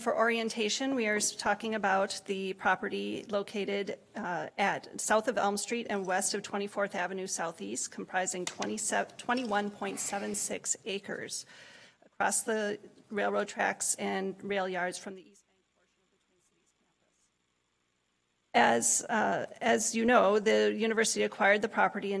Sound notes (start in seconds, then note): 15.5 audio cuts out